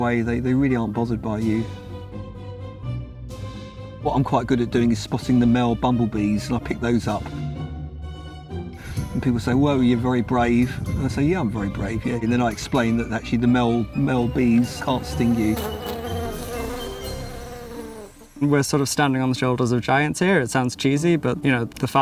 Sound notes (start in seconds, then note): 1.5 orchestral music; 15.8 magical music; 16.4 bees buzzing